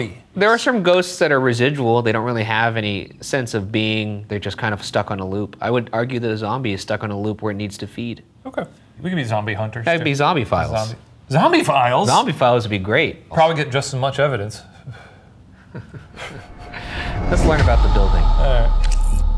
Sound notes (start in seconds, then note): 15.5 chuckles